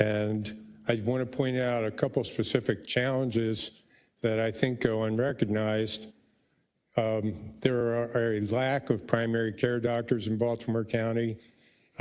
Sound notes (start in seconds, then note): none